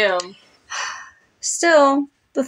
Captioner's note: sigh